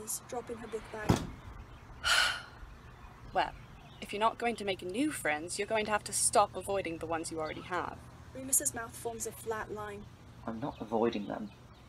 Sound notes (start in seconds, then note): 0.0 laughs; 1.2 birds chirping; 2.0 Lily sighs